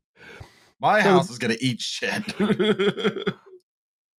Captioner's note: laughs